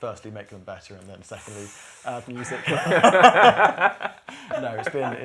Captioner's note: laughter